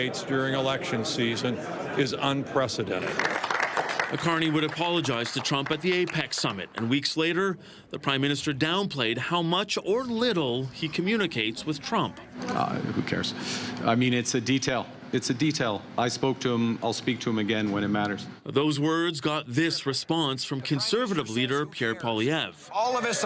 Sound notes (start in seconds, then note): 7.5 applause